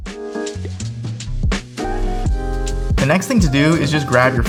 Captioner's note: chill music continues; graphics pop